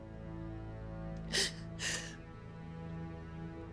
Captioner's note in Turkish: Ağlama sesi